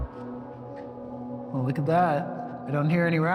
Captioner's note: echoing